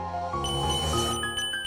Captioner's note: a bee calls out as they drive past